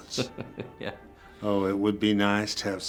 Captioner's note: chuckles